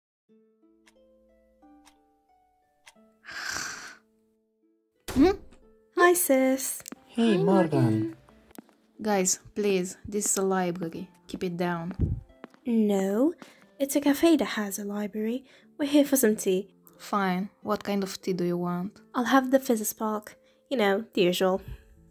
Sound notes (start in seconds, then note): 1.7 clock ticking; 3.2 Morgan snoring; 5.1 door slamming